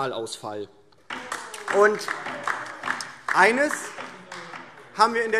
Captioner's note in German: Beifall DIE LINKE - Zurufe Freie Demokraten